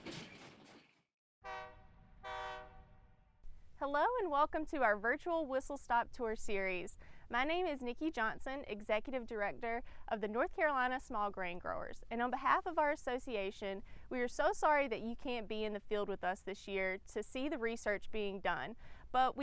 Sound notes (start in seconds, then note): 1.4 train whistle blowing